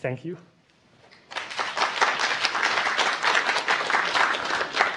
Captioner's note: applause